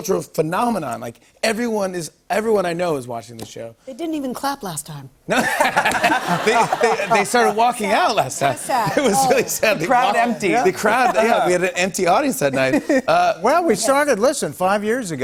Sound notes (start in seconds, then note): 5.3 laughter